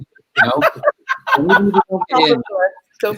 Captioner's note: laughter